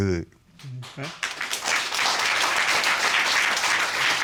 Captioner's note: applause